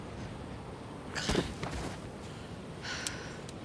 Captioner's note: snake thuds; Rebecca panting